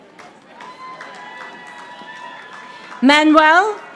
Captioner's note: audience applauding